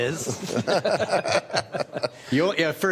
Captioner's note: laughter